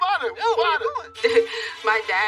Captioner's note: bep